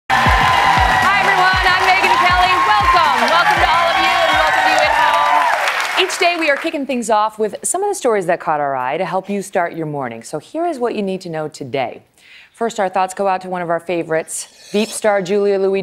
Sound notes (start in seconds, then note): 2.1 cheers and applause